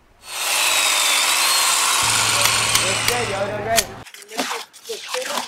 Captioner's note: clippers; drill